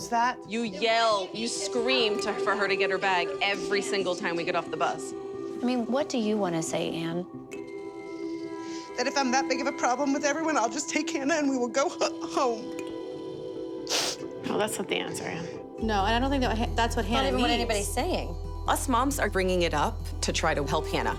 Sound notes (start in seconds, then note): 10.2 tearful; 13.8 sniffs